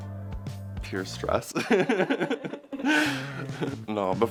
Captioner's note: laughs